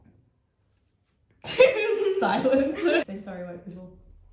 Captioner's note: laughs